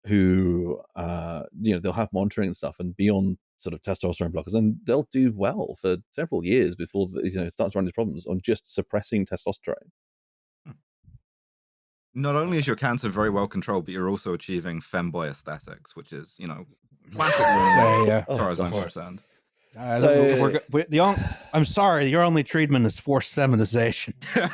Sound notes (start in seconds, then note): 17.2 tumult of laughter; 24.0 laughs heartily